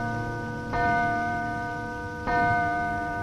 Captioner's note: clock chimes